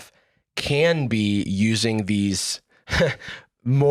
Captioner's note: chuckles